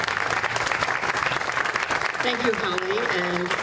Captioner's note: applause